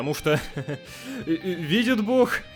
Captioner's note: giggle